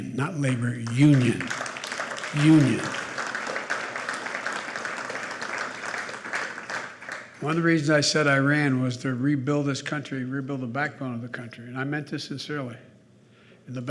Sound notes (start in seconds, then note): 3.4 applause